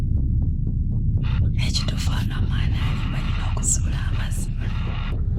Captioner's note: whispers